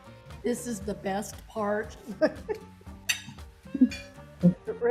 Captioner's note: laughs